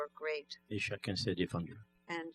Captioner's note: speaking french